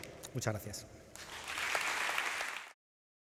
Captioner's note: applause